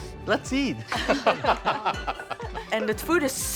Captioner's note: people laughing